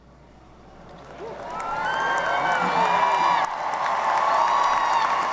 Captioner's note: audience applauding